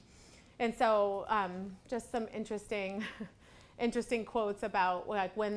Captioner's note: laughs